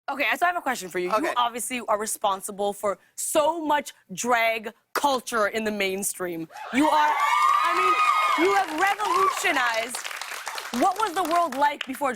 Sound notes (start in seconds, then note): 6.6 cheers